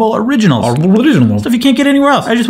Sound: babbles

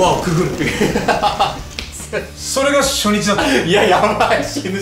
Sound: laughs

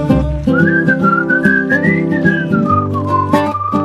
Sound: whistling

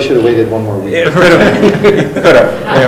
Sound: laughing

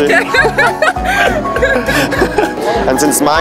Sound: laughing

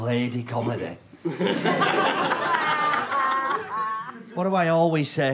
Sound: audience laughter

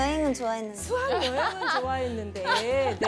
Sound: haha

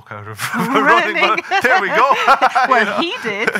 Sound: laughing

